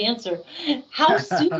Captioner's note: laughing